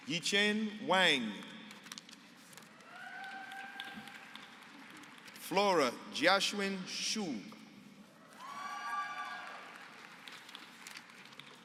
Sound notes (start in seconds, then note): 2.8 applause; 8.4 applause